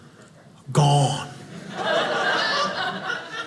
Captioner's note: audience laughing